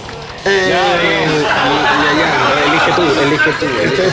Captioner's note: laughs